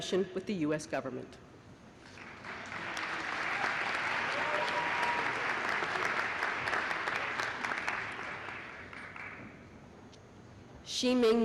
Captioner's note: applause